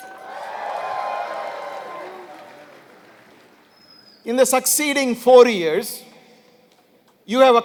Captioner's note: applause